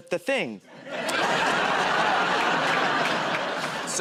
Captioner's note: laughter